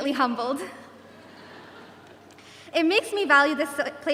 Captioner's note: audience chuckles